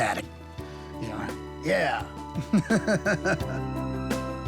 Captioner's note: laughs